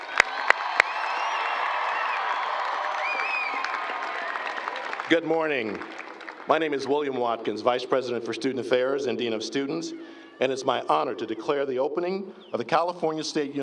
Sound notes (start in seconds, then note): 10.6 applause